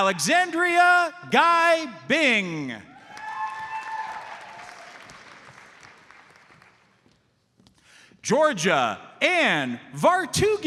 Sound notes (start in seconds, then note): 2.9 audience cheers and applauds